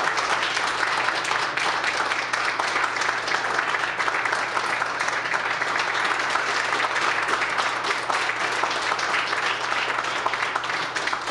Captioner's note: applause